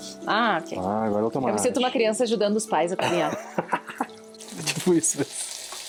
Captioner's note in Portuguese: risadas